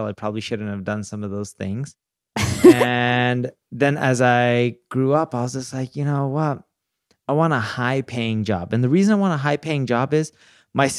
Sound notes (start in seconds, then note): 2.4 laughing